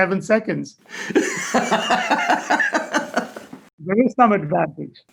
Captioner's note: laughing